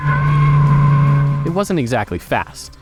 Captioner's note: tires screeching